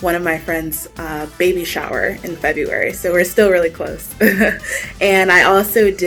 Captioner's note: laughs